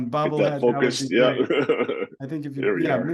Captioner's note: laughs